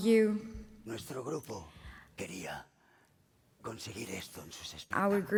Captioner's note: speaking spanish